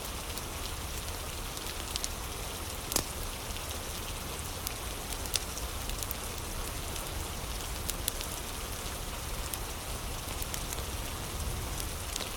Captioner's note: fire crackling